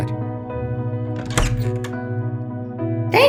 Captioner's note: door opens